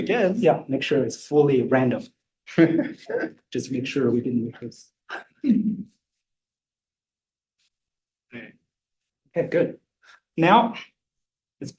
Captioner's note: laughter